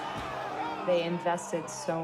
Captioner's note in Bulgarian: Протестиращи крещят